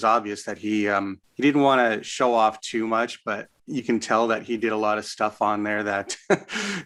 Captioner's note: chuckles